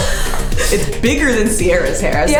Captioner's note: laughs in background